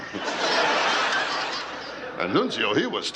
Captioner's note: laughter